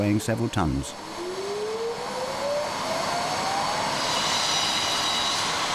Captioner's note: machinery whirring; saw buzzing